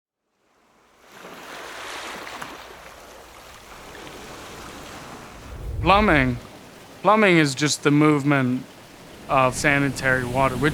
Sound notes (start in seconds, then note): 0.6 waves lapping